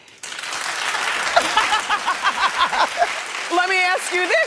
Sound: laughs

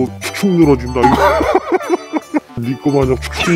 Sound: laughing out loud

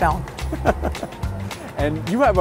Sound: both laugh

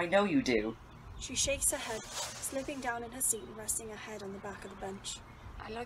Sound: leaves rustle

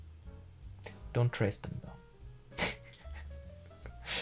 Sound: chuckles

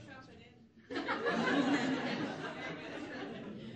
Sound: laughter

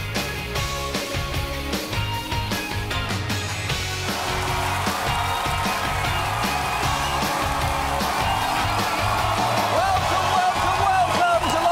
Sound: cheers and applause

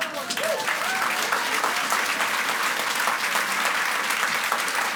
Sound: audience applauds and cheers

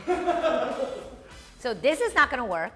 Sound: man laughs off camera

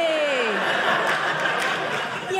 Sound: audience laughing

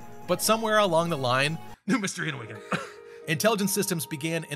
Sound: cough

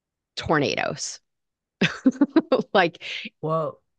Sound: laughs

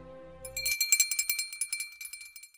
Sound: bell ringing

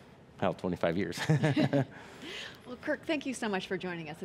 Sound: laughing

